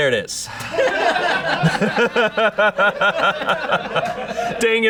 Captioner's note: audience laughing